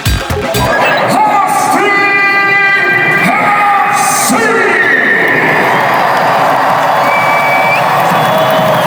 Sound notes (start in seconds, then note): 5.5 crowd cheering